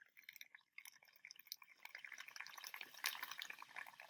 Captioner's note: water gurgling